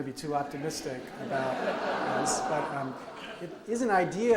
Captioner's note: audience laughs